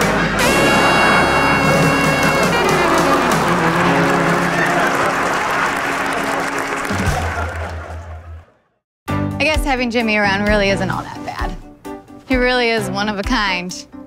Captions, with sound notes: (upbeat music) (audience applauds) - I guess having Jimmy around really isn't all that bad. He really is one of a kind,